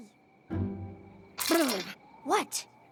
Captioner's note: rattle!